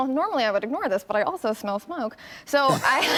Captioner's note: laughter